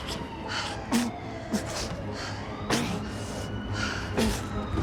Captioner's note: tense music; Mark grunting